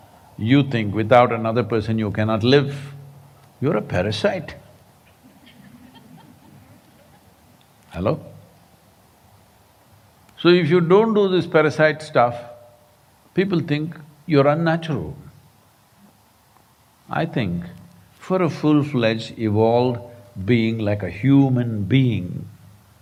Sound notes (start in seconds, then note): 5.2 laughter